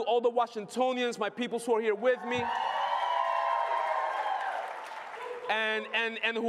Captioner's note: applause